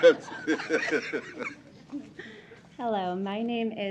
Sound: laughter

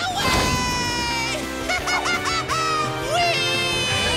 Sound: laughing

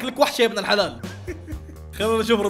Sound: chuckles

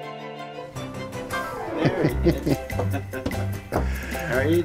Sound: laughing

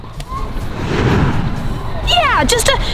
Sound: wind whooshing

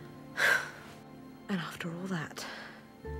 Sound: sighs

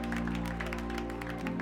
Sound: cheers and applause

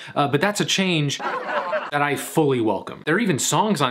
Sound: audience laughs

